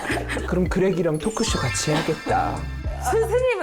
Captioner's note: creative idea sound effect